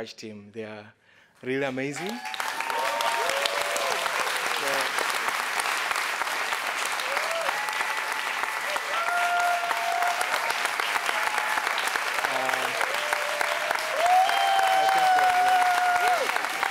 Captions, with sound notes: the Scratch team, they are really amazing. (audience applauds)